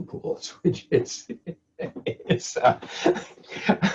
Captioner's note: laughs